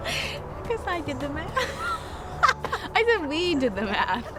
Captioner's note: laughs